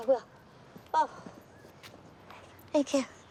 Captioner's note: breathing heavily